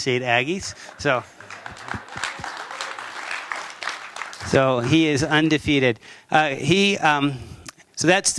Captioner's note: applause